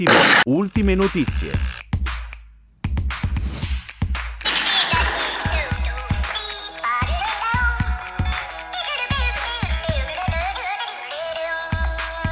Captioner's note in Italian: Applauso